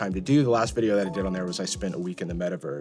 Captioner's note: bell ringing